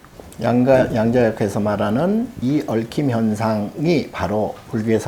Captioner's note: speaking Korean